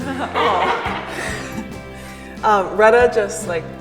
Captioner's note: laughs